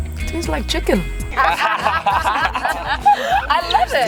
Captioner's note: laughing